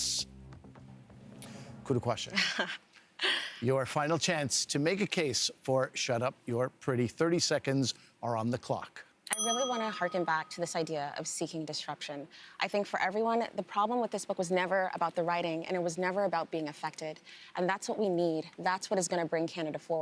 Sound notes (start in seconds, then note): 9.3 bell rings